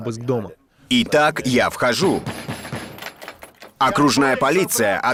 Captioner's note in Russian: стук